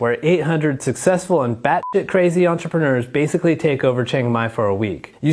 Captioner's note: beep